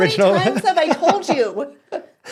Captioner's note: laughing